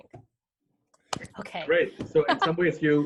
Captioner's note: laughs